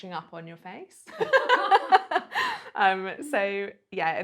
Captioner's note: laughs